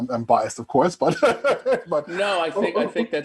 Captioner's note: laughing